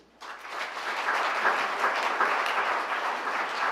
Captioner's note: applause